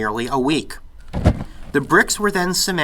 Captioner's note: whoosh of flame